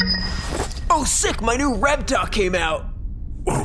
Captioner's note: electronic ding